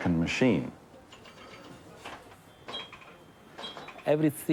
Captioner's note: pinball in cafe